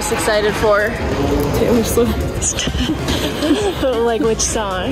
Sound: laughs

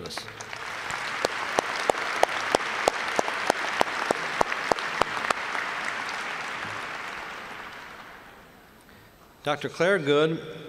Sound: applause

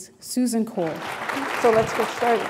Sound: applause

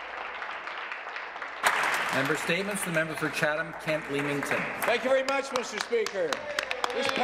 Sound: applause

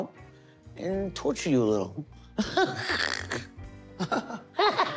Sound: laughs

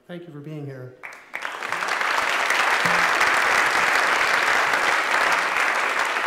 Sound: applause

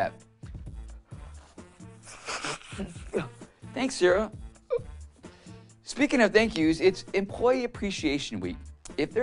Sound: blows his nose

